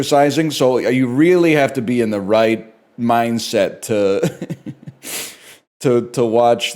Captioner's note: laughs